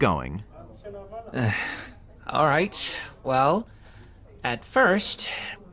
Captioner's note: sigh